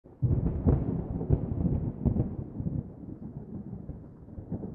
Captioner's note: thunder